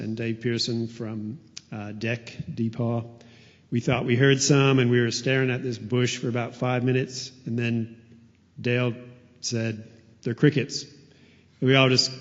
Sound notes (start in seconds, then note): none